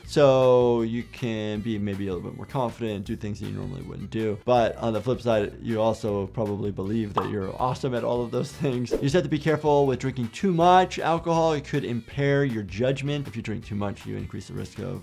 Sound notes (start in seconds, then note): 7.1 image popping; 8.8 screen whooshing